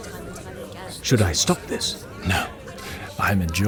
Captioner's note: whispering